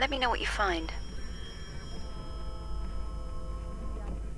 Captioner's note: phone ringing